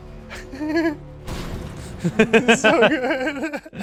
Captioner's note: scooter explodes; laughs